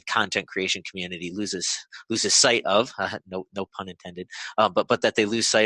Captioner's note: laughs